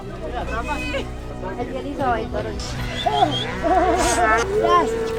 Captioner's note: farmers speaking